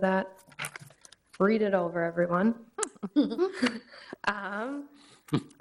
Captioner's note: chuckles